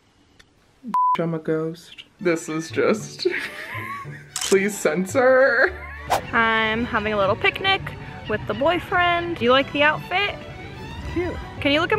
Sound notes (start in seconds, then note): 1.1 beeps; 3.0 laughs; 4.3 camera snaps